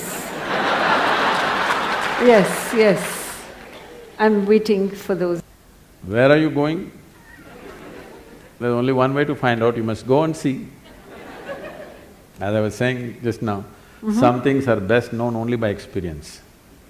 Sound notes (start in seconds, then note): 7.2 laughter; 7.2 笑聲; 10.8 laughter; 10.8 笑聲